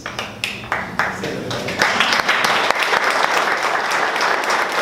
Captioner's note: audience clapping